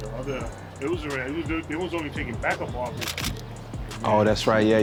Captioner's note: laughs